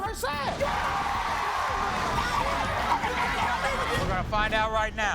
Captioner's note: yelling and cheering